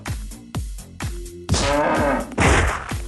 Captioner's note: cow explosion noises